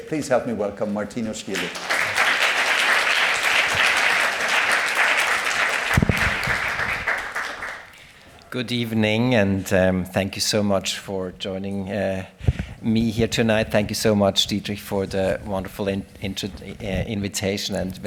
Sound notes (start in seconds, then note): 1.5 applause